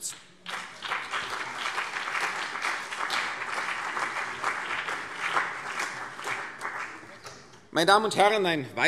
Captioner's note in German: Beifall CDU und BÜNDNIS 90/DIE GRÜNEN